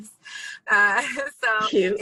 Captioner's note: laughs